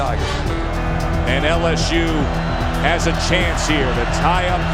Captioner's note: voiceover